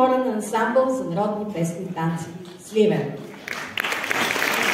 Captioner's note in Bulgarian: аплодисменти